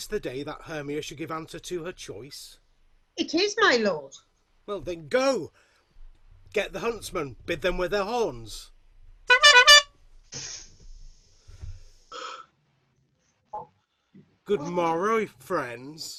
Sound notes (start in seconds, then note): 9.2 horn toots